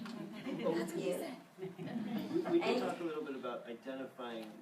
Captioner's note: group chuckles